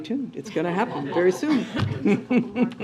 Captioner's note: laughter